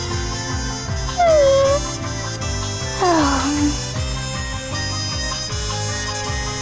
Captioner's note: yawn